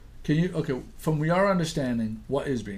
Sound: voiceover

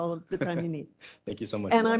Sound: laugh

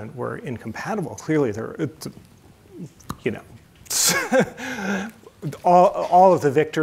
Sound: chuckles

